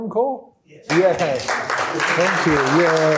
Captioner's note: applause